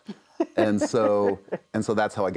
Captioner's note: laughs